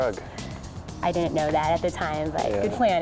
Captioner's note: daters laughing